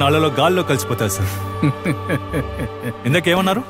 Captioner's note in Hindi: हँसते हुए